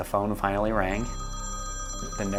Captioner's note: phone rings